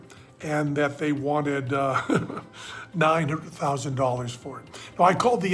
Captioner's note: laughs